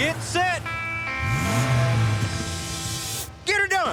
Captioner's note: engine revs